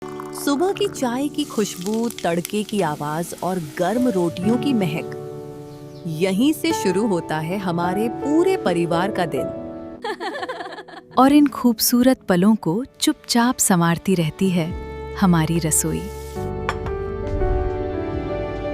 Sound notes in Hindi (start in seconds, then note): 10.0 हंसी